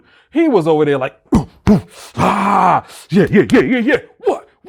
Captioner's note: grunts